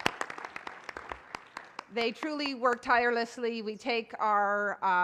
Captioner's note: applause